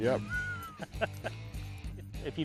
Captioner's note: laughs